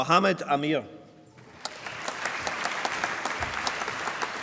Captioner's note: applause